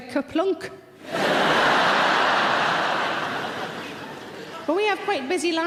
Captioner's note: audience laughing loudly